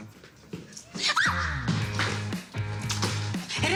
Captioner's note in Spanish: Grito